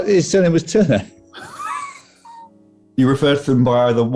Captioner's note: sniggering